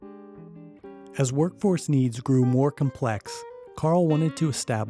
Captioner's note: voiceover